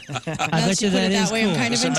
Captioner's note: laughing